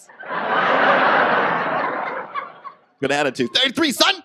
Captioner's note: audience laughs